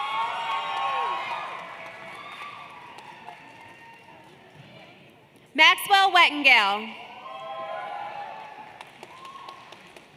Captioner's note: cheers and Applause